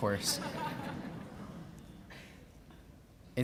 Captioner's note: laughing